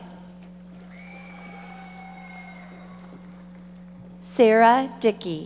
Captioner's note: audience applauding